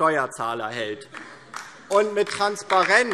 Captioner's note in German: Beifall DIE LINKE